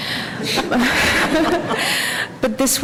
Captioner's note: laughter